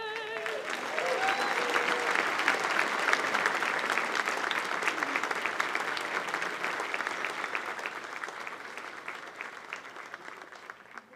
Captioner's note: applause